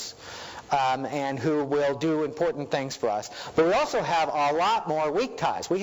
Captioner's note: none